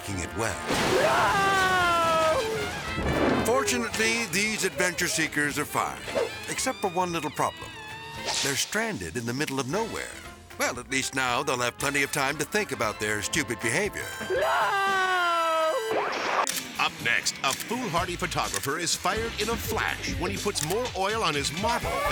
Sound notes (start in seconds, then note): 16.1 transition whooping